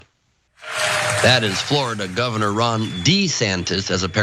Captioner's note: applause